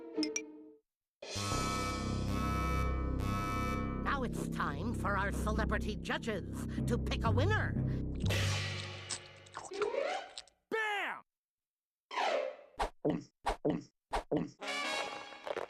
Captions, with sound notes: [beeping] NOW IT'S TIME FOR OUR CELEBRITY JUDGES TO PICK A WINNER. BAM!